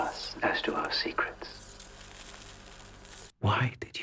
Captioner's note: cigarette hisses